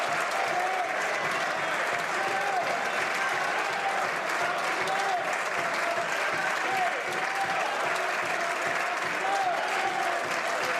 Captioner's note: some Applause